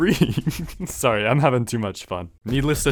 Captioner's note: giggling